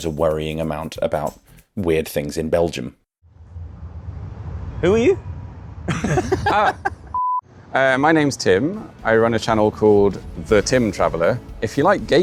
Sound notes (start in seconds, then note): 5.8 laughter